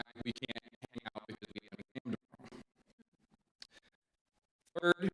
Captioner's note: audio cuts out